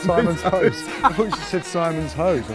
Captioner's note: both laughing